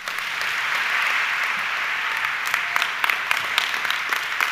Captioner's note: audience clapping